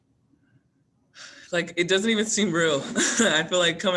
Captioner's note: sighs; chuckles